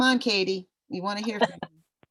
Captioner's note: laughter